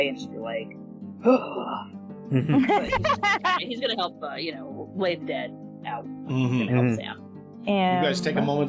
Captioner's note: exasperated sigh